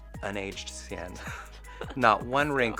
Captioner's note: laughs